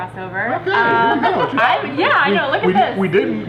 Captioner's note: laughing